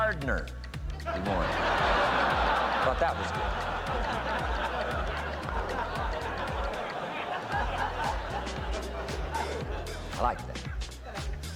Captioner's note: audience Laughter